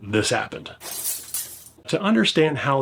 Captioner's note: glass shatters